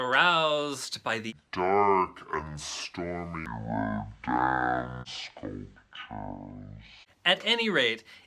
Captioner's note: ldeep and slow motion voice